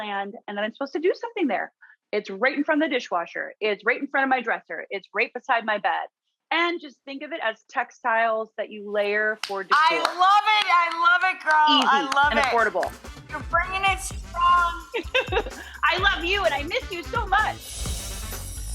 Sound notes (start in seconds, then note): 9.8 clapping; 13.0 upbeat music; 14.6 laughs